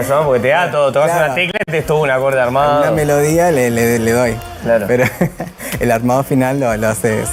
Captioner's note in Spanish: risas